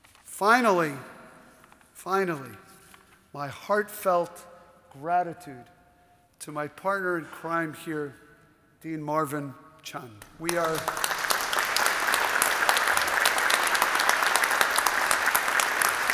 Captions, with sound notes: Finally, finally, my heartfelt gratitude to my partner in crime here, Dean Marvin Chun. We are... (audience applauding)